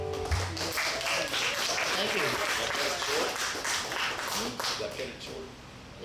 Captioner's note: audience clapping